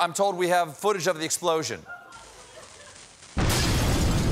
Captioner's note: laughter